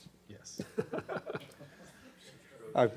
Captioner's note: laughs